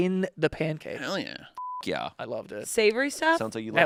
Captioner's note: beep